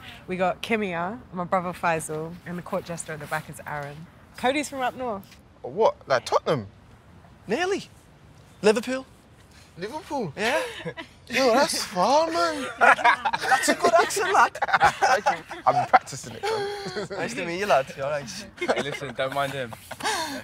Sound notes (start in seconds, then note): 12.4 in Scouse accent; 13.4 laughing